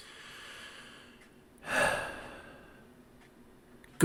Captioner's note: deep exhale